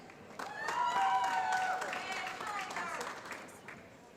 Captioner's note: applause